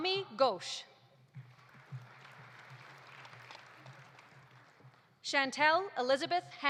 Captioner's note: audience applauding